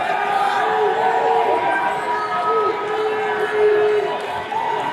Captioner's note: attendees cheering